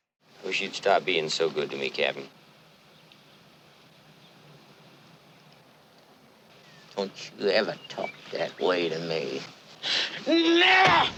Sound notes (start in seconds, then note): none